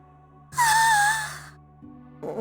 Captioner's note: exasperated sigh